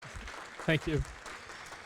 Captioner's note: applause